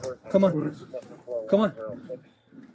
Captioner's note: radio chatter